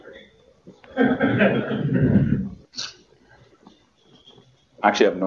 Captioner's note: laughter